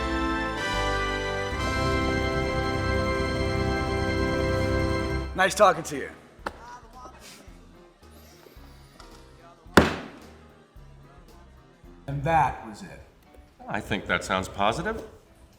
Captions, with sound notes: Nice talking to you. (fist thuds) And that was it. - I think that sounds positive.